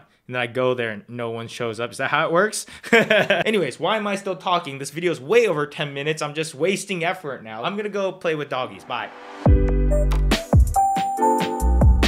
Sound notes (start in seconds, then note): 2.9 laughs; 8.7 chill music